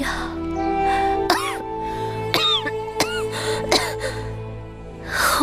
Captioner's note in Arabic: سعال